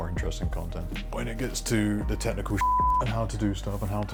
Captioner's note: beep